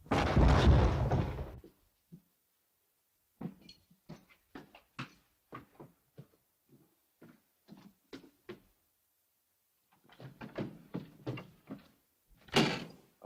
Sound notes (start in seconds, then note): 0.0 loud thud; 3.4 footsteps up stairs; 10.0 door opens